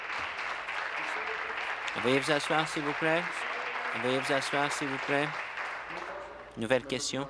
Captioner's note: applause